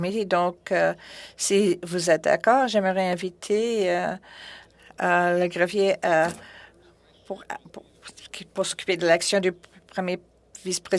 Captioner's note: speaking FRENCH